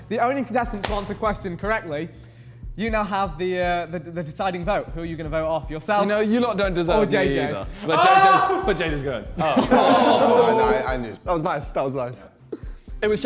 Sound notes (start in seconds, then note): 7.8 contestant shouts; 9.5 men laughing